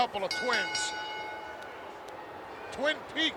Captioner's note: bell rings